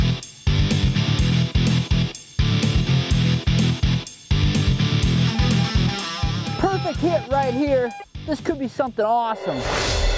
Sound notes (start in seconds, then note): 5.2 beeping; 9.6 whooshing